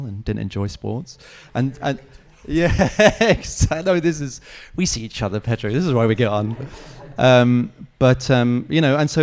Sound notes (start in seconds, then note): 1.5 speaks faintly; 1.6 laughs